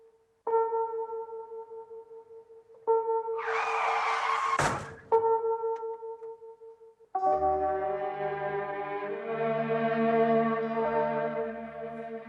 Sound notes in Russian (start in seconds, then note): 3.4 звук тормозов